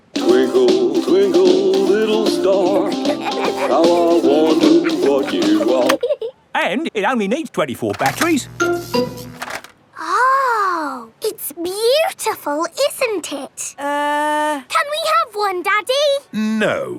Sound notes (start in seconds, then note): 2.5 both giggling; 8.0 buzzing